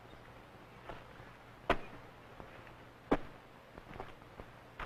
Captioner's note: axes chopping